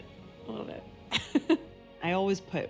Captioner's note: she laughs